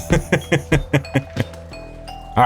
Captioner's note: laughing